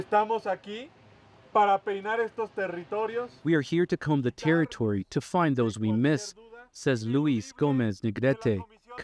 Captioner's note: speaking alternate language